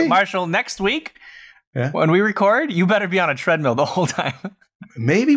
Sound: laughter

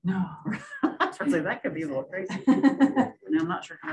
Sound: laughs

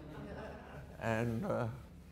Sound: audience laughter

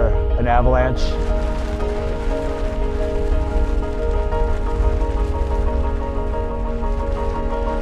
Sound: light music; snow rumbling

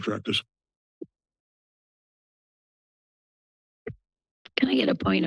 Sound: silence

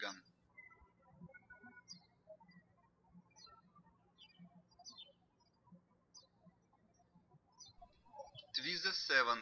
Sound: birds chirping

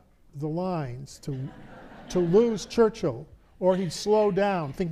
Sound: audience laughs

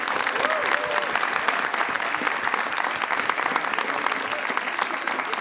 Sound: audience applauding

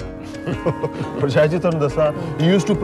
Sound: laughs

